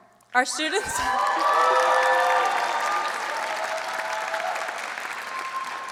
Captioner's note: audience cheers and applauds